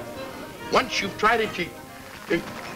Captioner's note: whimpers